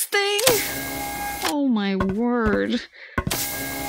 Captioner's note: walking sounds; mechanical sounds